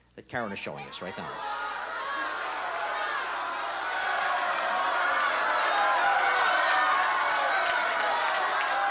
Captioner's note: crowd clamoring